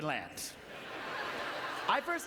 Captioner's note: audience laughter